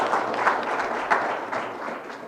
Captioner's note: audience clapping